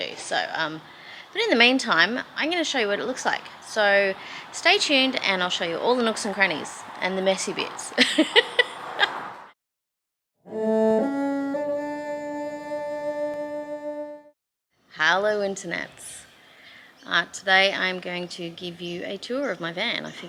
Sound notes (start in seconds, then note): 8.0 laughs; 10.5 three ascending cello notes, ending with a sightly clumsy vibrato